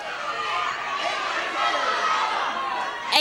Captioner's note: audience shouting